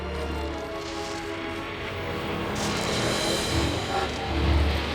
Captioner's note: train whistle